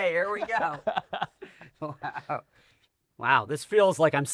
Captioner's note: laughs